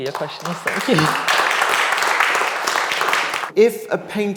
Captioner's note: audience clapping